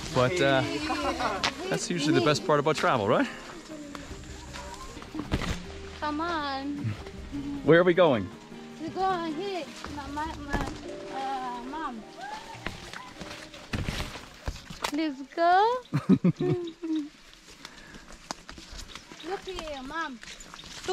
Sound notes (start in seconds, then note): 12.7 leaves slapping; 15.9 laughs